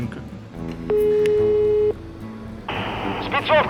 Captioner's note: ringing sound - beep